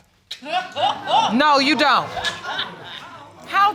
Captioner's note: audience laughing